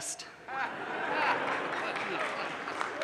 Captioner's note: audience laughs; audience claps